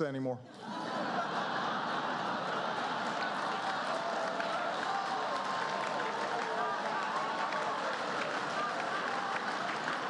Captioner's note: laughter